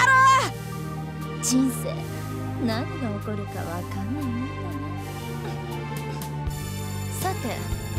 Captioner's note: chuckle